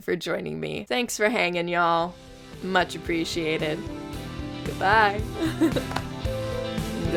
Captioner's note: laughs